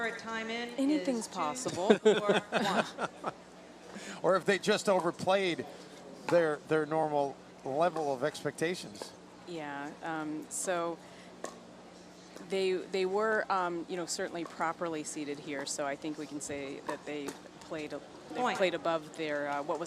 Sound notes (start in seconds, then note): 1.6 laughs